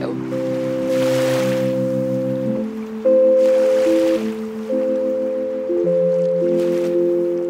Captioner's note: soft gentle music; waves sloshing